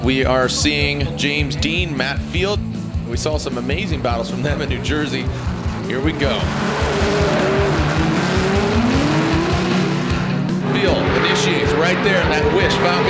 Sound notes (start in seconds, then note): 6.8 engines revving